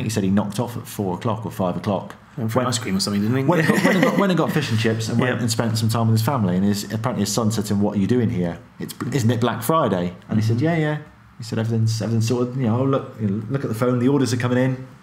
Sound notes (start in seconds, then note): 3.5 laughing